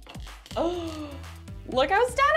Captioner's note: gasping